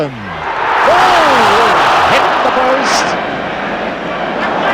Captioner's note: crowd groan